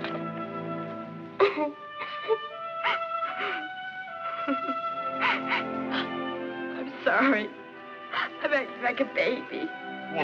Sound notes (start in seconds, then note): 1.3 Gwyneth sobbing